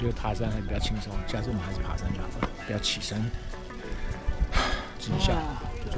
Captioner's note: sigh